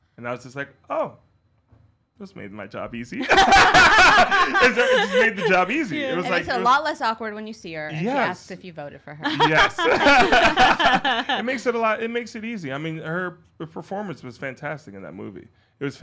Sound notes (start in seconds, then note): 3.2 all laughing; 9.2 both laughing